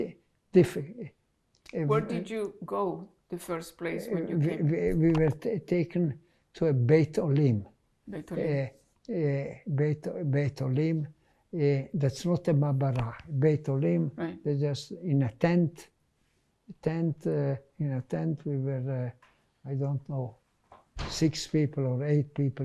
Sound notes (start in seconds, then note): 5.3 hebrew